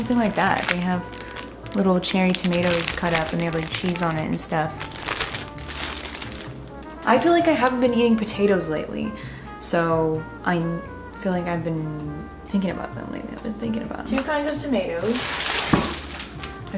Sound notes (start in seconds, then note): 5.4 bag crinkles